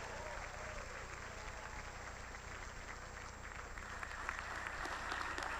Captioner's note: applause